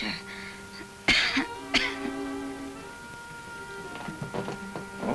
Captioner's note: coughs